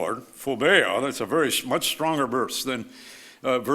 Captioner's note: speaks foreign language